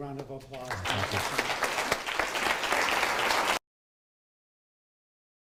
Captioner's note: applause